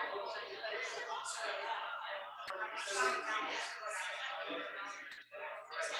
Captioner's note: people chattering indistinctly